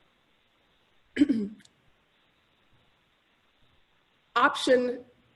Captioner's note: clears throat